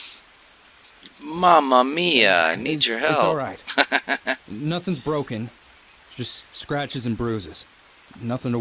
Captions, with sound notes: Mamma Mia I need your help [laughs]